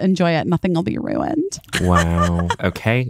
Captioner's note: laughing